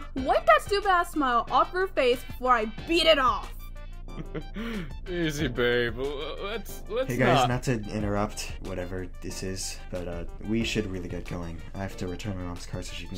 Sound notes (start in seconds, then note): 4.1 nervous laugh